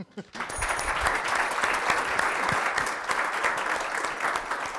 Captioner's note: audience applauds